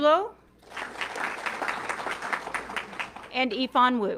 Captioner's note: audience clapping